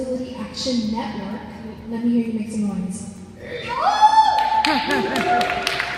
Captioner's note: some yell's and applause